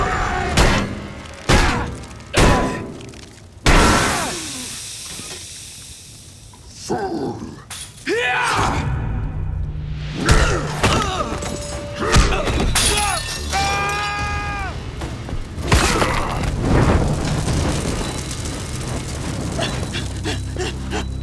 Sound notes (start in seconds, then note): 0.2 thudding; 6.7 grunting; 13.5 screaming; 19.1 panting